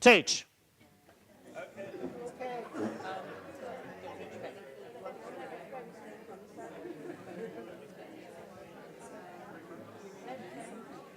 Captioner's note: audience discussion